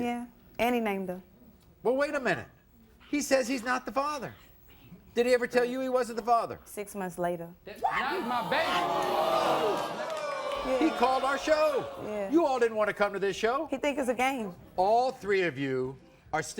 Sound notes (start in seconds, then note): 7.9 audience boos